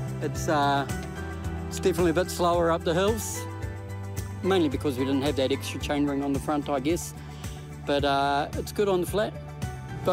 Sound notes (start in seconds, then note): none